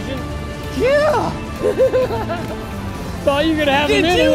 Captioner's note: laughs